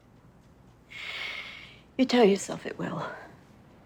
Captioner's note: inhales deeply